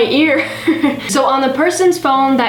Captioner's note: laughs